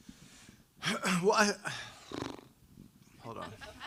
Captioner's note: blowing raspberries; audience laughing